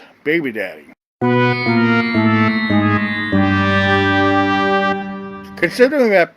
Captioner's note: fail sound effect